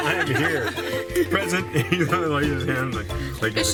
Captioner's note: laughter